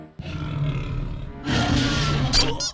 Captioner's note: roars; growls; groans